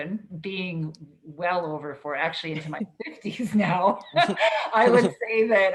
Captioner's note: laughs